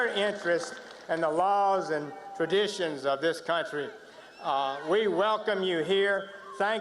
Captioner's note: cheers and applause